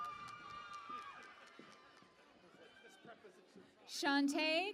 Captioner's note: cheering and Applause